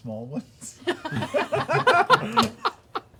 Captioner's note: laughter